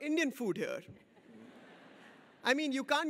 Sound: audience laughs

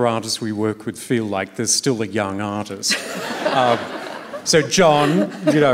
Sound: laughter

